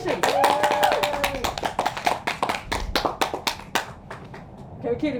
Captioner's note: all cheering and clapping